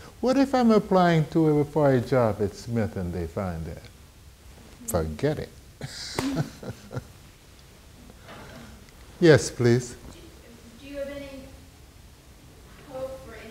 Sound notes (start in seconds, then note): 5.8 laughing; 10.9 woman's Voice